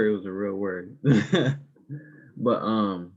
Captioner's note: laughing